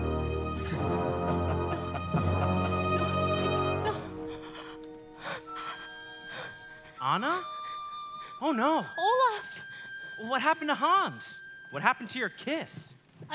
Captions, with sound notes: (deep somber music) (Hans laughing) - No. (breathing heavily) - Anna? Oh no. - Olaf. - What happened to Hans? What happened to your kiss?